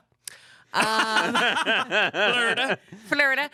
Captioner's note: everyone laughs